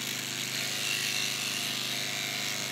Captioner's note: whirring